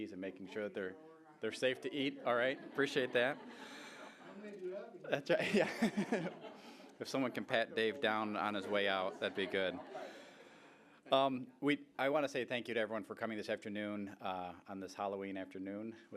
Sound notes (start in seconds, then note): 1.7 audience laughing; 4.5 laughing